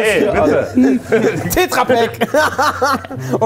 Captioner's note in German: Lachen